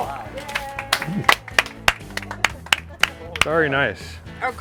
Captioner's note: clapping